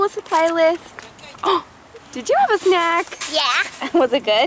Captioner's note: gasping